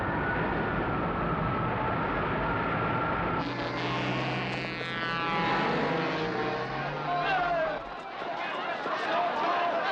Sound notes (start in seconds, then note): 2.0 shouting; 3.4 horn Honking